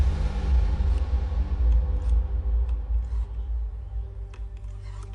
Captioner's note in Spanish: Sonido al discar